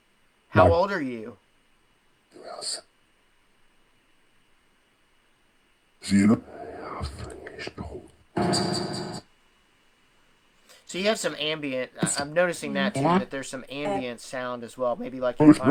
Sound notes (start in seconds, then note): 2.2 whispering